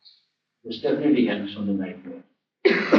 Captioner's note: laughter